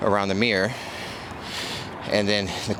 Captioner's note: breathing heavily